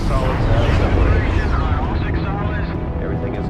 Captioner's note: dramatic music; rocket boosters whooshing